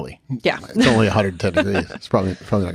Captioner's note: chuckles